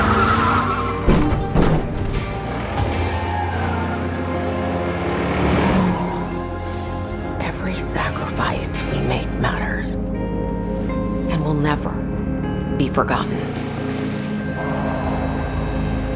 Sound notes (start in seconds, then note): 0.9 thumping